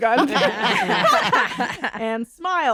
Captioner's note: laughter